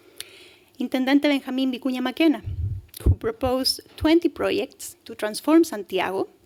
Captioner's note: speaking spanish